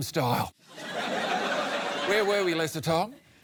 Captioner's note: laughter